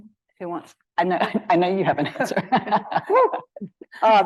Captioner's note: laughs